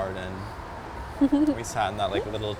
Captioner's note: giggles